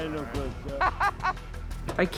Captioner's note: laughter